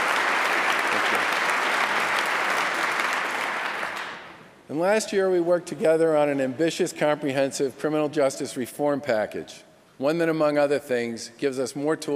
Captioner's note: applause